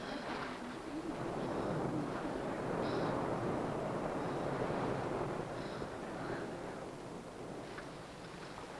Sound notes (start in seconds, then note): 0.9 wind blowing swiftly